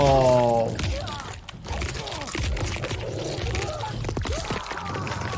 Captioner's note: fighter screams